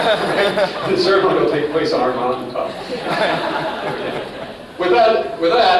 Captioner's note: laughs; laughter